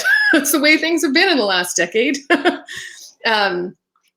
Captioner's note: laughing